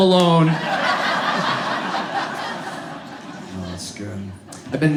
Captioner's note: audience laughs